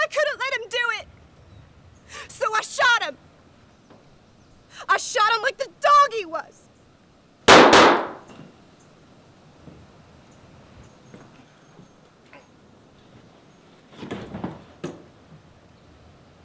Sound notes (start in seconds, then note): 7.4 guns firing